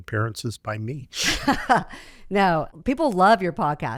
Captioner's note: laughs